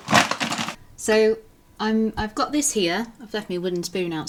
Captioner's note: packet rustling